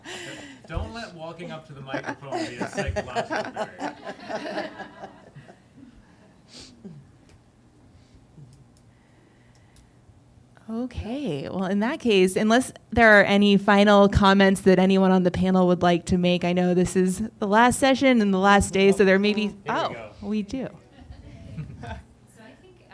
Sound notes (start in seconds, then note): 3.9 laughter